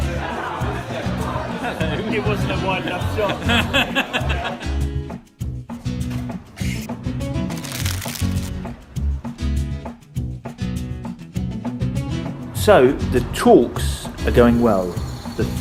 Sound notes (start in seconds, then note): 3.8 laughing